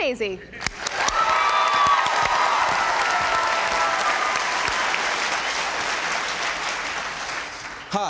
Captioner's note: applause